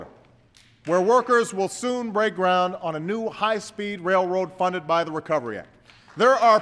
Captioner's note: applause